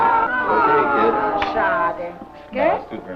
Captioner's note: foreign language